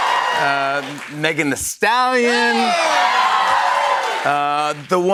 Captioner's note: cheers and applause